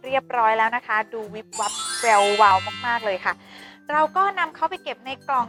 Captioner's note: sparkling noise